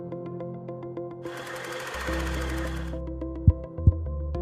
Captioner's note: chiming music; film rolling; mic thudding